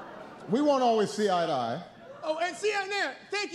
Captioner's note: laughter